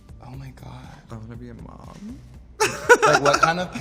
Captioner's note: laughs